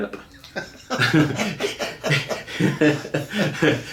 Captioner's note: laughing